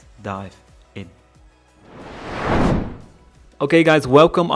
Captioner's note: whoosh